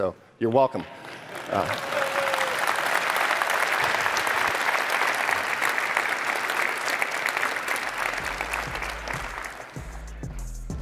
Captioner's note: applause